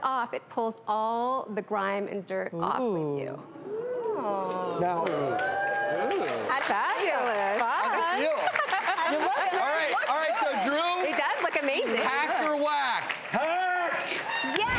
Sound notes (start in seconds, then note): 3.5 crowd ooh's; 5.8 crowd cheers